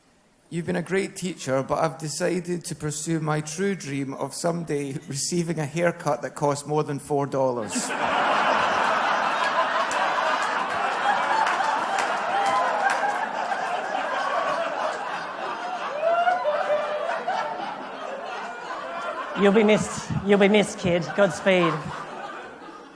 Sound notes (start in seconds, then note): 9.6 laughter/Applause